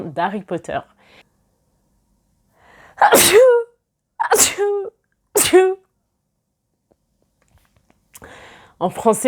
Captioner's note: sneezes